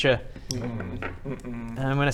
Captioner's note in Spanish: gemidos